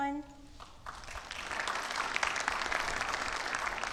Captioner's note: audience applauding